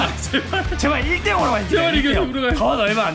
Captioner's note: laughs